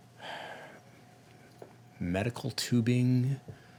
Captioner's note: sighing